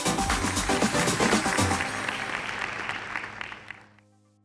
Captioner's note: applause